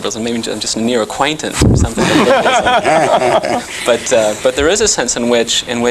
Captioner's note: laughter